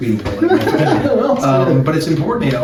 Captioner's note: laughs